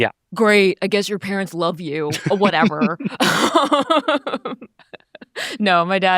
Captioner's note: laughs